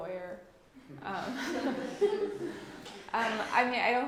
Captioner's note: laughter